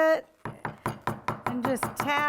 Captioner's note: tapping